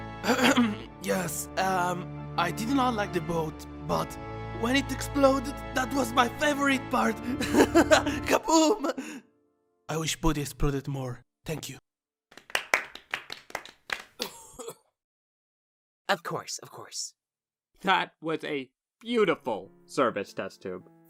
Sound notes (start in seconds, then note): 0.2 clears throat; 12.3 scattered polite applause, cough; 14.8 no audible dialogue